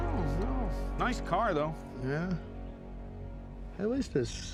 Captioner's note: scottish accent